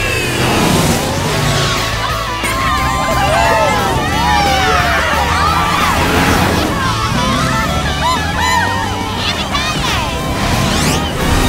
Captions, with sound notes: [cheering] Yippie kay yay!